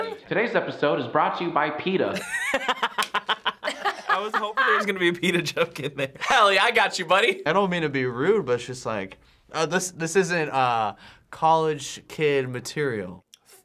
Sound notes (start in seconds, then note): 2.1 laughs